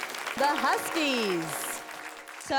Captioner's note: crowd applauds